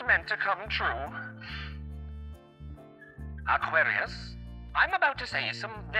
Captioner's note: sniff